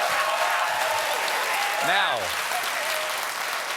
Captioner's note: applause